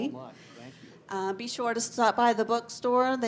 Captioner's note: none